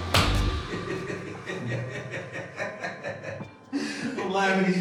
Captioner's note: laughter